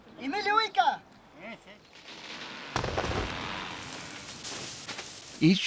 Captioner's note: man calling; rope strains and snaps